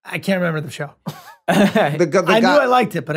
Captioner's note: Glenn laughs